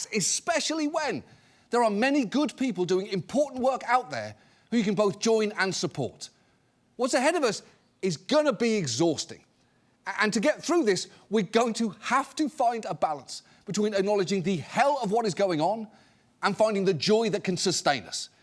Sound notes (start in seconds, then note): none